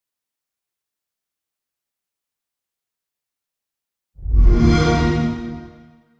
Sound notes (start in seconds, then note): 4.2 xbox sound